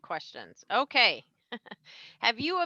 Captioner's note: laughs